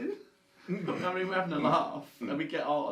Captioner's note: laughs